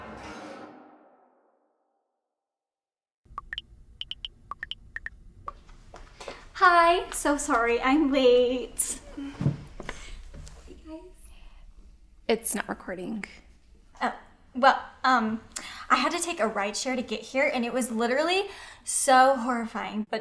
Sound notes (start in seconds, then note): 0.1 suspenseful music fades; 4.0 phone beeping